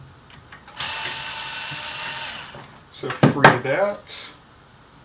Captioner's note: whirrr